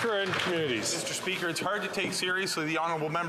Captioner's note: some Applause